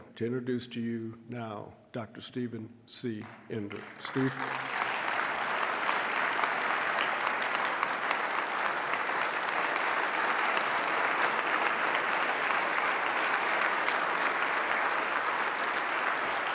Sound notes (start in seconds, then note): 5.6 applause